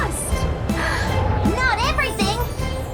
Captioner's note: gasps